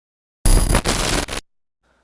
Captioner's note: glitch sfx